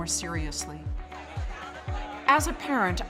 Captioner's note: murmurs